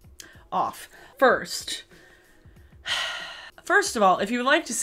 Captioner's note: sighs